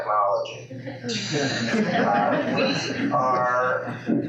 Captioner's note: laughing